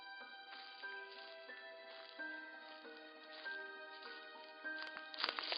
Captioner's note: footsteps approaching